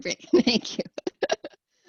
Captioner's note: laughter